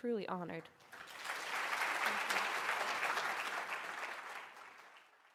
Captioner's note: applause